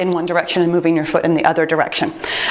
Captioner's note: timer beeps